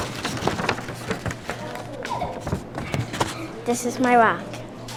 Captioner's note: paper crumpling